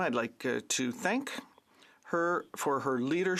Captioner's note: speaking French